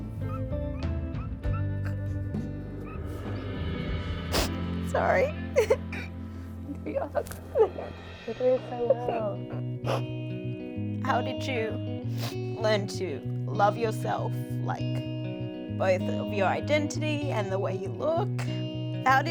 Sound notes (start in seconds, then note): 1.8 sobbing